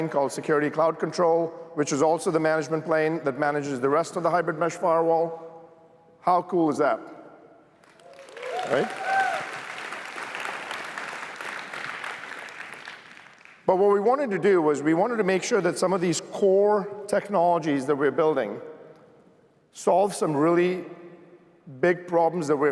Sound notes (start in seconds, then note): 7.9 cheers, applause